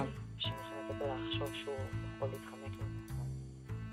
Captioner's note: speaking in Hebrew